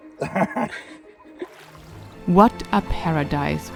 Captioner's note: person laughing